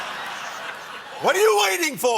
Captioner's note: laughter